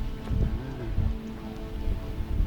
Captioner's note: sounds of approval